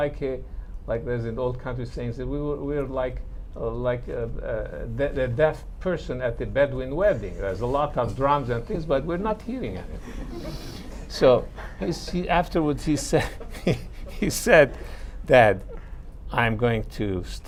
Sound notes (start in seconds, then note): 11.5 laughter